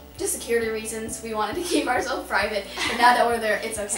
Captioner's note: laughs